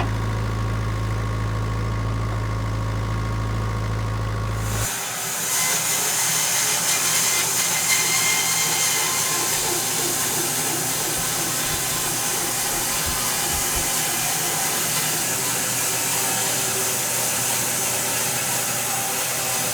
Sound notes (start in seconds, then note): 0.1 engine revving continues; 4.8 slab master whirring